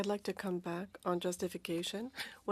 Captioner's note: speaking French